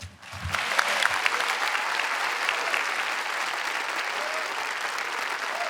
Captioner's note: audience clapping and cheering